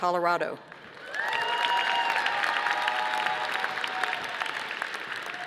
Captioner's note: audience applauding